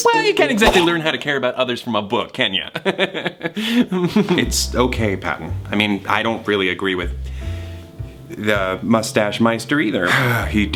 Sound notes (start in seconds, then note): 3.9 laughs